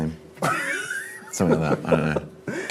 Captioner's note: laughs